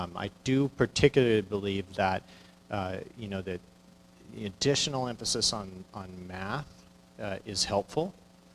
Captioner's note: none